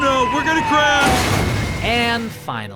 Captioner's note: crash sounds